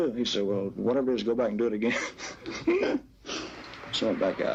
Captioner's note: laughing